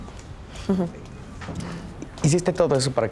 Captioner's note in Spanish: Ríe